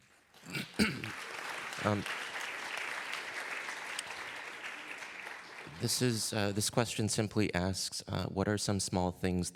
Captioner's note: applause